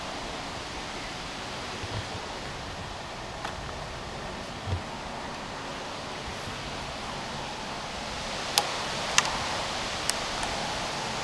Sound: wind

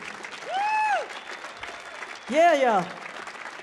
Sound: audience cheering

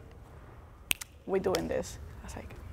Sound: snaps fingers

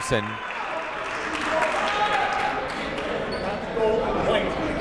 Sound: clapping; chatting

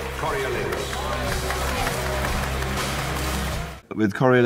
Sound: clapping

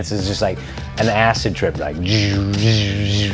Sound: makes buzzing sounds

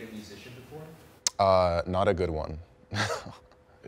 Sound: laughs

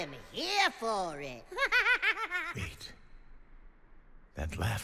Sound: giggles

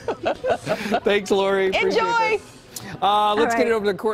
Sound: laughter

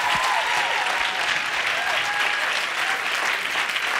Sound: audience cheering; audience applauding

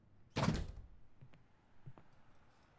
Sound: door closes

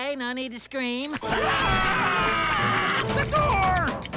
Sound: screaming

